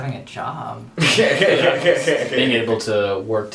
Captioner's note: laughing